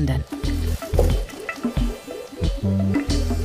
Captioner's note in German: Glucksendes Geräusch